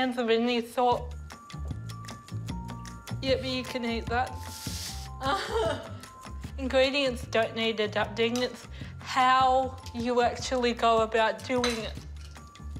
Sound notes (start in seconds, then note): 1.3 curious music; 5.0 chuckles